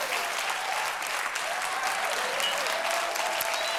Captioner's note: cheers and applause